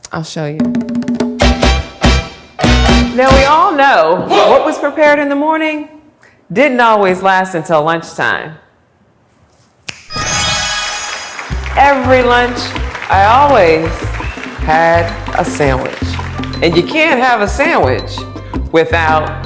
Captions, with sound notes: I'll show you. Now we all know what was prepared in the morning, didn't always last until lunchtime. (snap) (magic wand swooshes) Every lunch, I always had a sandwich. And you can't have a sandwich without